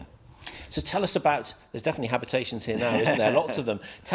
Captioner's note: laughs